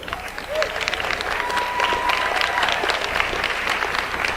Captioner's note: audience applauds